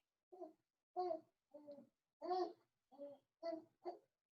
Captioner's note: child mumbling